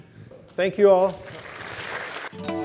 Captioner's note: applause